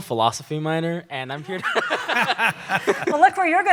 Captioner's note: laughter